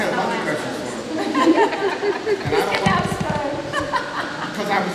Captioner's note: laughter